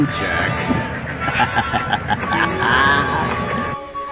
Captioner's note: laughing